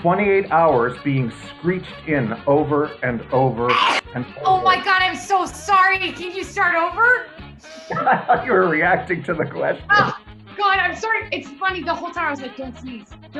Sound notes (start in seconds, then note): 3.6 sneeze; 7.7 laughing